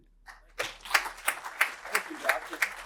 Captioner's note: applause